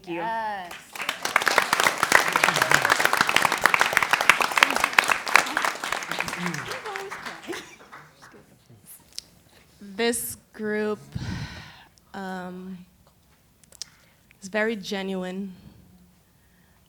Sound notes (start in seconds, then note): 4.5 applause; 11.0 exhales